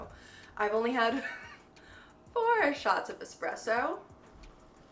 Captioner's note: chuckles